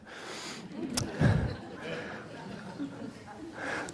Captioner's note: laughter